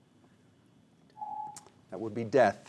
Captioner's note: whispers; ring